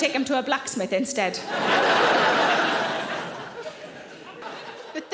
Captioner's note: audience laughing